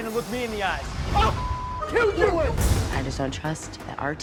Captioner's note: beep